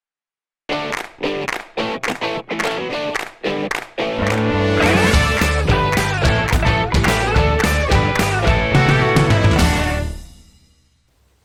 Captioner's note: claps